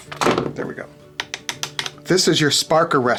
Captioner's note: tapping